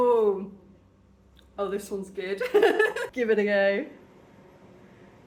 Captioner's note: laughing